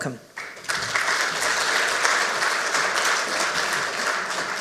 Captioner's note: audience applauds